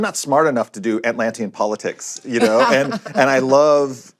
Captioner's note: laughs